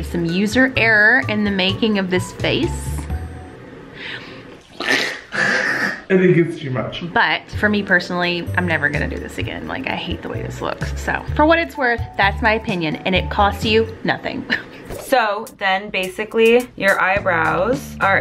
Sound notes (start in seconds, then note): 4.8 shrieking